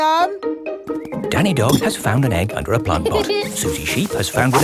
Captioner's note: laughs